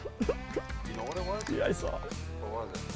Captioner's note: voiceover